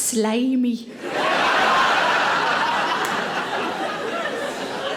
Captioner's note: audience laughing